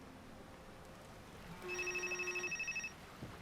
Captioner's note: phone vibrates